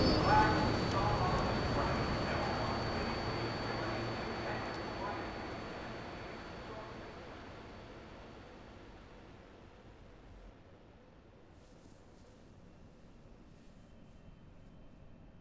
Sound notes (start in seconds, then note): 0.1 train operator announces stop; 4.7 subway noise quiets to silence